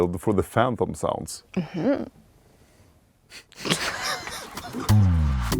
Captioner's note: laughs